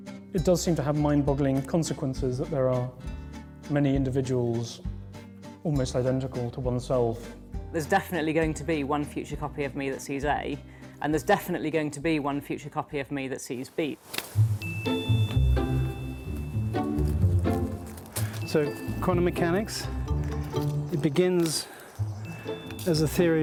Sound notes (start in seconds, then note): 13.7 shears snipping; 14.3 playful music